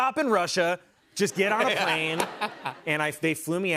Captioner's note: laughter